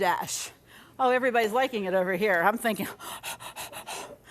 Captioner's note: panting quickly